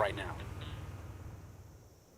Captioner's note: Warthog Revving